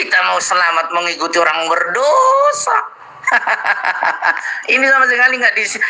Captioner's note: laughs